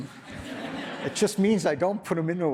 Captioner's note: audience laughs